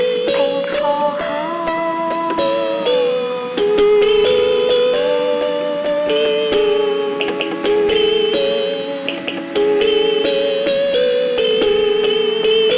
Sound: humming

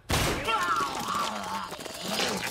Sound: vomits

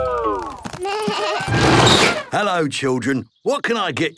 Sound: bleating, trumpeting

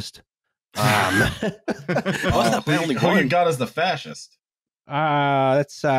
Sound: laughter

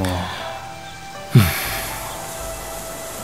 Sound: sigh

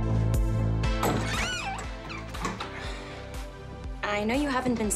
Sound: door opens

